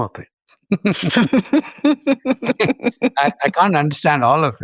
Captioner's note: both laughing